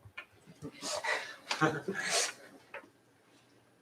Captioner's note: laughter